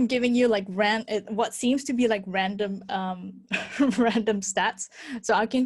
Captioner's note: laughs